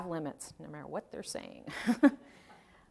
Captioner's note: speaking in sotto voce; chuckling